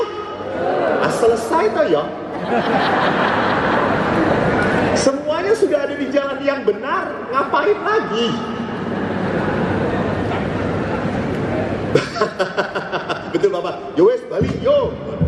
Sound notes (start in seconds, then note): 1.6 in Javanese; 2.2 laughing audiences